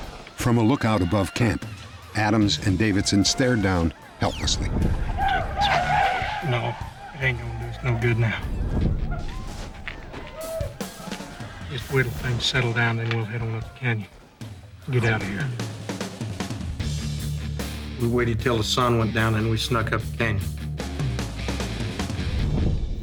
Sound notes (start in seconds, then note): 5.0 yelling; 8.8 gunshots